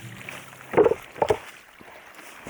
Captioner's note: stones make clonk clonk